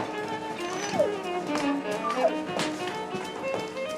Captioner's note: whimpering